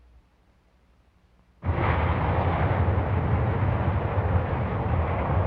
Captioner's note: city sounds